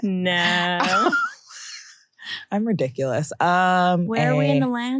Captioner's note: chuckles